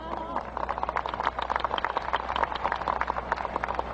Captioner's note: crowd applauding